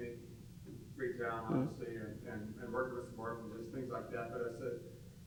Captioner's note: murmurs